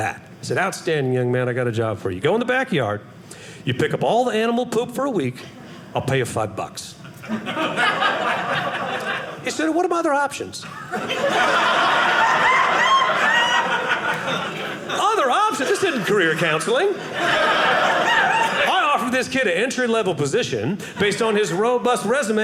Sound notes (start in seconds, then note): 7.0 audience laughing; 10.6 audience laughing